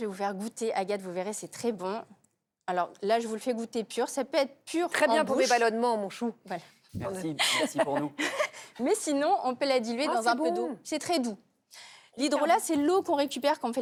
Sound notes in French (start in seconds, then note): 7.4 rires